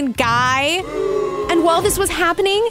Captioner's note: booing